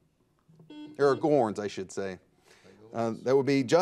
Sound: buzzer dings

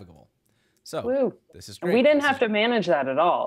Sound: cheers

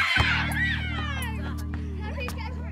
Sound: screams

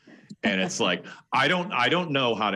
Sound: laughing

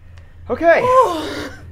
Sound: sighing

